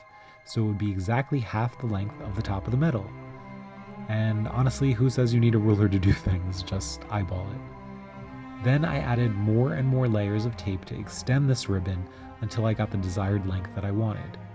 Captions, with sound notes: so it would be exactly half the length of the top of the medal. And honestly, who says you need a ruler to do things? Just eyeball it [laughs]. Then I added more and more layers of tape to extend this ribbon until I got the desired length that I wanted.